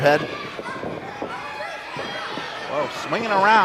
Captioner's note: audience shouts